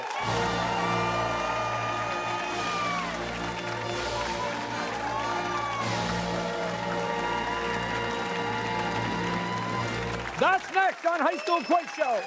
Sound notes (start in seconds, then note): 0.2 fanfare; 4.5 cheers and applause; 12.1 cheers and applause